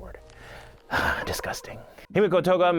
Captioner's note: sighs